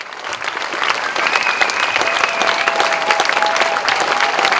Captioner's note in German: Pfiffe und Jubel